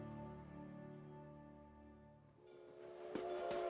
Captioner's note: train honking